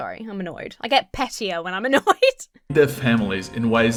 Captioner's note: laughs